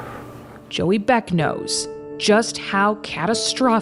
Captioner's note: breathes deeply